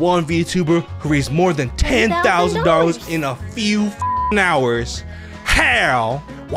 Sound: beep

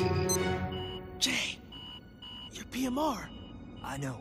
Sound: beeping

